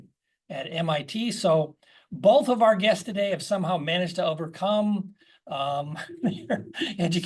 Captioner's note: laugh